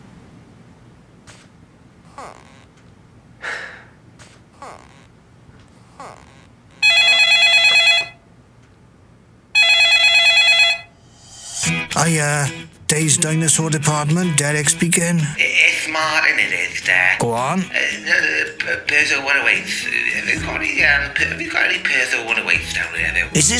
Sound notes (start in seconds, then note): 2.1 chair squeaks; 3.4 sighs; 5.8 chair squeaks; 6.8 phone Rings; 9.5 phone Rings